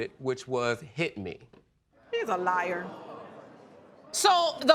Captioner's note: audience exclaiming